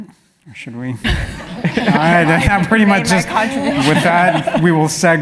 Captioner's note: laugh